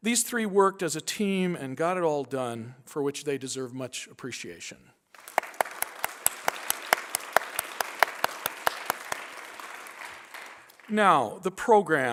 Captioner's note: applause